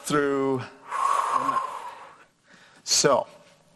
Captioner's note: exhales